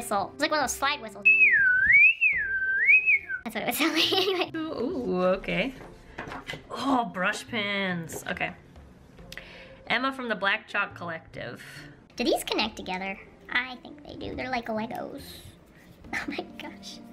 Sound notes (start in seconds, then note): 1.2 more whistling